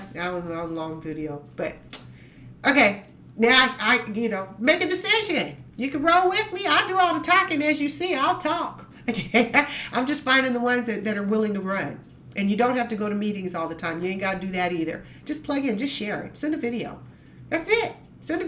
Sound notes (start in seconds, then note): 9.0 laughs